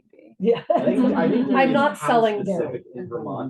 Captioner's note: students chuckles